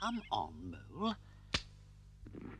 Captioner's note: twig snaps